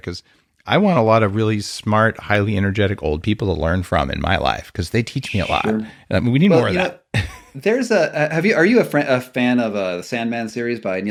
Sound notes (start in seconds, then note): 7.1 chuckling